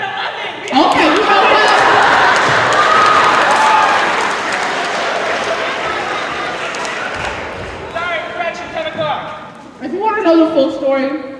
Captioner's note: applause